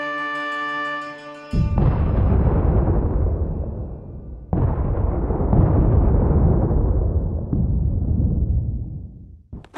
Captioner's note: far away bombing